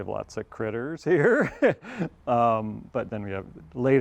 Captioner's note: laughs